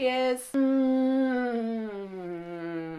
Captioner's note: hmm